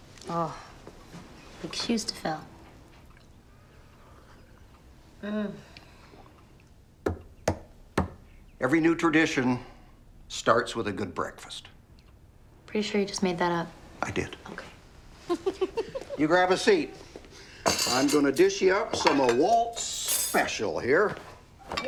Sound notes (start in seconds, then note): 5.4 Cassie hums; 15.2 Cassie giggles